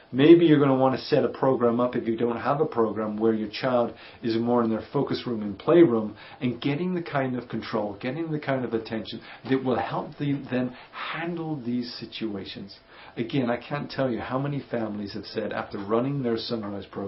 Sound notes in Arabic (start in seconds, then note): 11.8 الضجيج و الأصوات